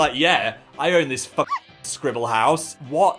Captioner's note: dog bark